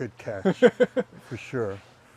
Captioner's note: laughing